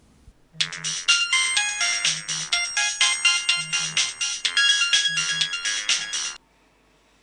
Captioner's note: ringtone